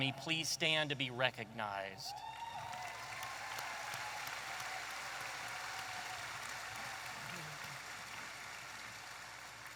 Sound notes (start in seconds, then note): 2.0 audience applauding and cheering